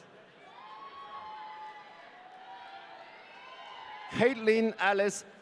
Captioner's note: audience cheering